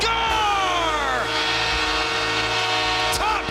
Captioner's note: horn blares